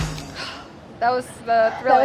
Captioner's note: sighs